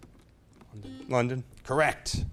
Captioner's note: beep